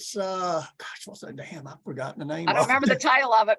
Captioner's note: chuckles